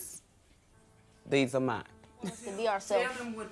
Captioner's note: laughs